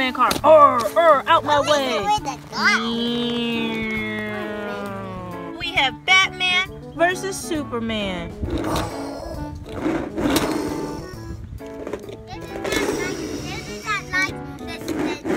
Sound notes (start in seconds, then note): 0.0 voiceover; 3.7 imitates engine rumbling; 3.7 voiceover